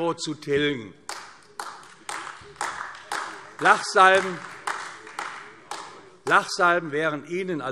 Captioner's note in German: Beifall AfD